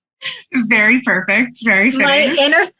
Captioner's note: laughs